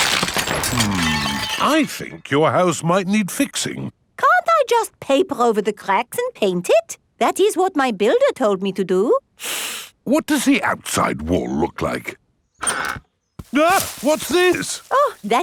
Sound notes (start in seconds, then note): 0.0 cracking; 9.4 inhales sharply; 13.5 exclaims